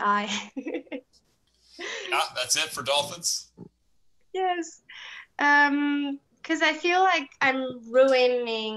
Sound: chuckles; laughs

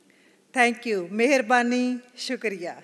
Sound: non-English phrase

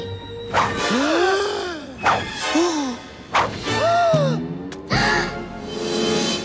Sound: gasping

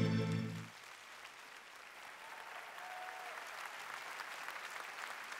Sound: applause

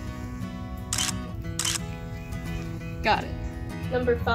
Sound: camera shutter

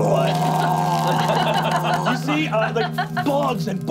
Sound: growling

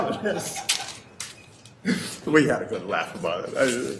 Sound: laughing

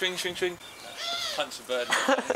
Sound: ridiculous bird noise

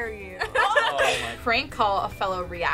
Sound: laughing

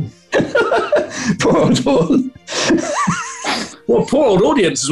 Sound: laughing

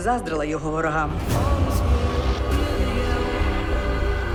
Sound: echoing eerily

